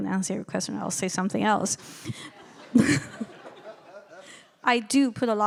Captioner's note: laughing